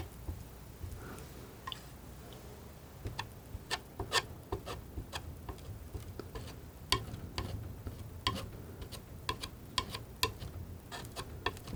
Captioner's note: tapping